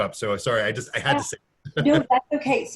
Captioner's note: laughing